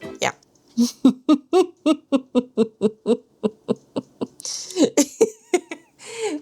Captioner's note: laughs